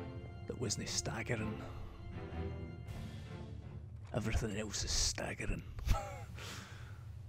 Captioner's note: laughs